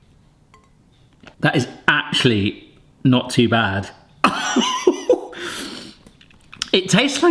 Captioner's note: laughs